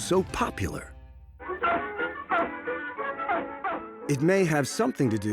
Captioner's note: barking